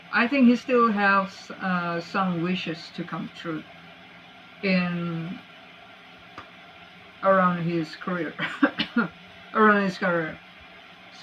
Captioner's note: cough